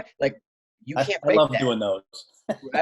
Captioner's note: laughing